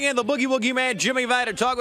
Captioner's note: crowd cheering